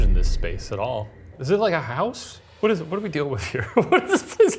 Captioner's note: laughs